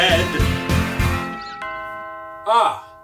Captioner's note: doorbell rings